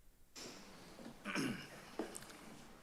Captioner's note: clears throat